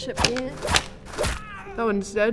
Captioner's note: fwip; distant ow